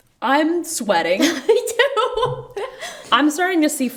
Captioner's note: laughs